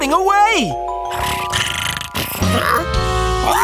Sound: snoring

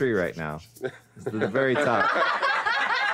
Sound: all laughing

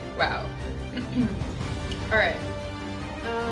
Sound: clears throat

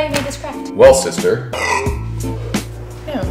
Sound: burps

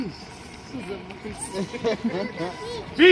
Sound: laughs

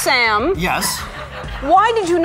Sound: audience laughs

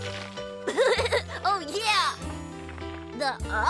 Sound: laughs

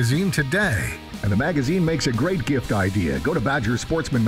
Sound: voiceover

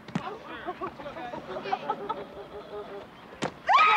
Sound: woman cheering

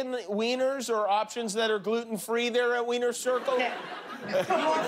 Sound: laughter

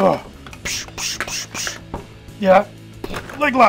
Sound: grunting

